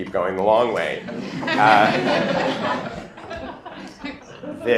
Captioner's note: laughter